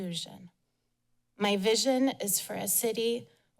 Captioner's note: none